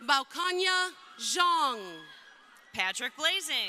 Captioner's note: crowd cheering